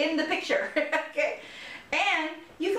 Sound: laughter

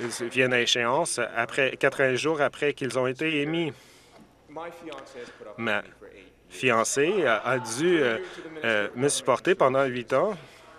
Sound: some Applause

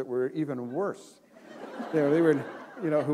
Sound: laughter

